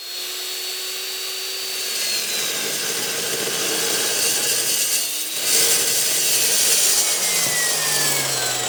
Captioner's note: buzzing